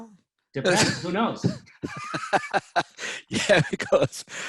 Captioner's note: laughs